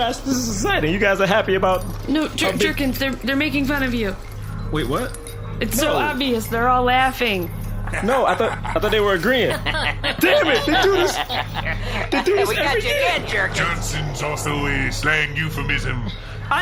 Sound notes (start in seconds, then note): 7.8 laughter